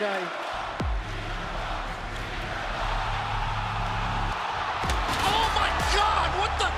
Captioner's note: crowd cheering